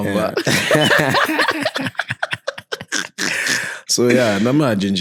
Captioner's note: laughing